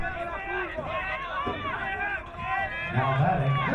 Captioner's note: crowd cheering